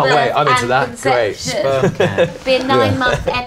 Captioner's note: laughing